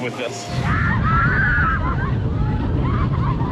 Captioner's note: riders scream